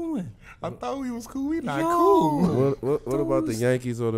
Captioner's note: laughs